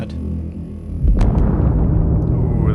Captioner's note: sounds of a distant explosion